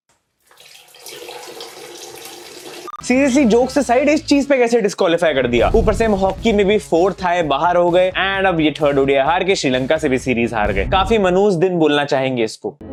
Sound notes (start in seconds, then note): 0.4 flushing